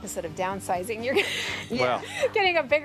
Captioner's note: laughs